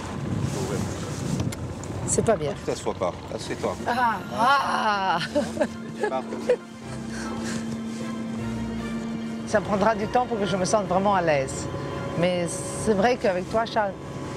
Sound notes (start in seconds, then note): 4.1 laughs